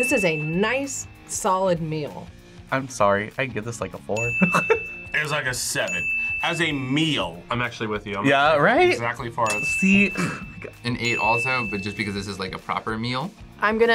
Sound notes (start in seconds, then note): 4.4 laughs